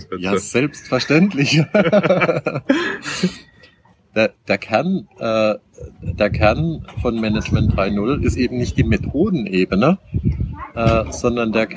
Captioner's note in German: Lachen